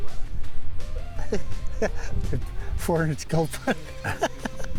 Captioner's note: laughs